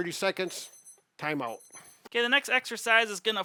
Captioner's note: alarm ringing